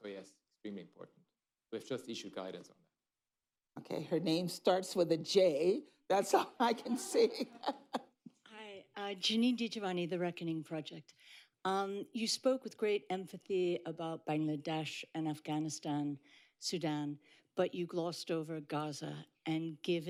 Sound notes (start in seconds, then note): 6.6 laughter